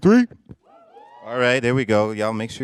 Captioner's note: whooping